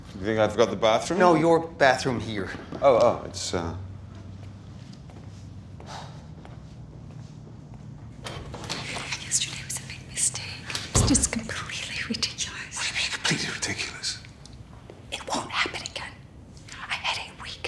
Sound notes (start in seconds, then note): 6.1 sighs; 8.1 door opens; 10.1 whispering; 13.2 whispering